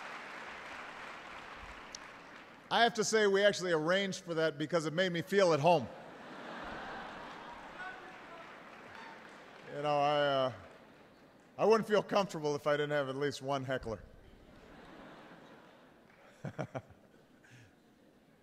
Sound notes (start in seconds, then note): 9.1 laughter; 14.4 laughter